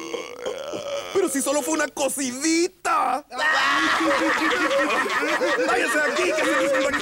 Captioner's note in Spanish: Todos ríen